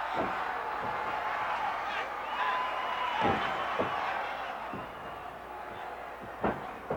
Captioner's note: plank thudding; referee yelling